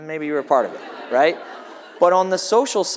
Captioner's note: audience laughs